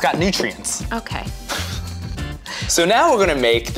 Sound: laughs

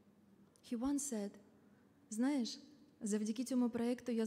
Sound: speaking in foreign language

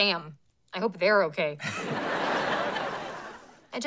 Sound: chuckles

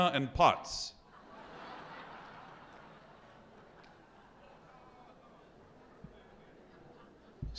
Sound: audience laughs

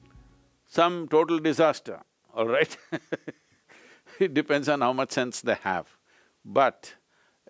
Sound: laughs

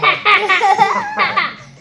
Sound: laughs

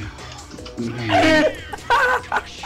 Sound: gasps for air

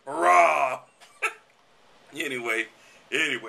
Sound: laughter

